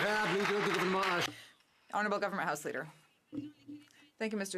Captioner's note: some Applause